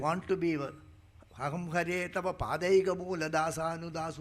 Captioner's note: speaking in Sanskrit